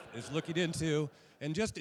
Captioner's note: laughter